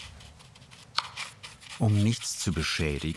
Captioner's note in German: Schabende Geräusche